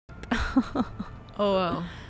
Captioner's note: laughs